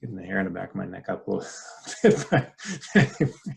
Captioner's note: laughs